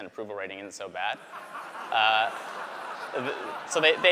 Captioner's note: laughter